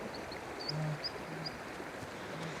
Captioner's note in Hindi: चहचहाहट